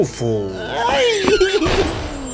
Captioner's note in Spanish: Robin grito